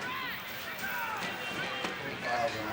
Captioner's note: loud shouting on TV